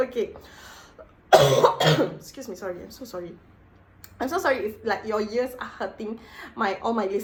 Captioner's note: more coughs